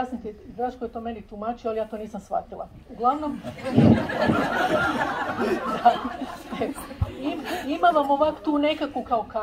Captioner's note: laughter